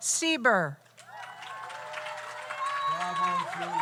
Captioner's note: audience applauds; audience cheers